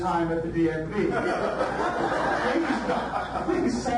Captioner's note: audience laughs